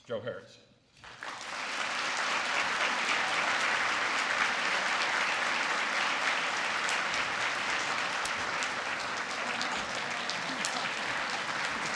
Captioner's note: applause